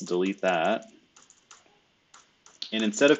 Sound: computer keyboard clicking

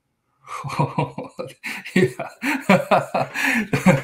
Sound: laughing

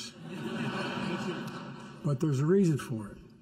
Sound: laughter

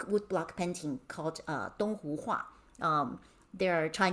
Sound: speaking in Mandarin

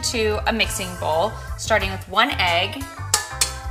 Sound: cracking

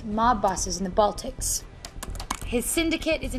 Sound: tapping of computer keys

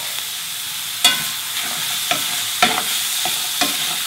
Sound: pork sizzling

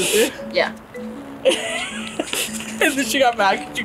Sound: laughs

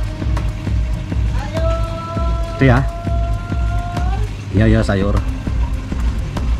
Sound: voice of vegetable traders passing

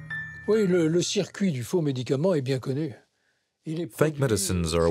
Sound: French spoken audio

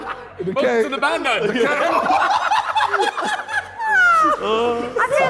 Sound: JJ laughing hysterically

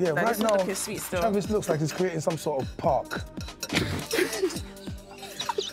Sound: everyone laughs

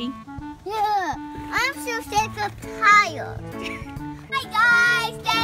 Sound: voiceover; groans

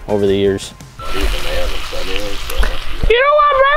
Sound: meat sizzles

